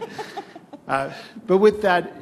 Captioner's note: laughter